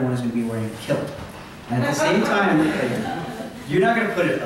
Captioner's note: laughter